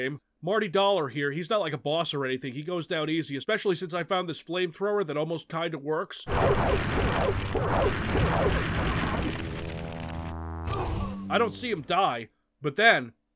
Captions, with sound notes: Marty dollar here, he's not like a boss or anything. He goes down easy, especially since I found this flamethrower that almost kinda works. [flamethrower sfx] [door closing sfx] I don't see him die, but then: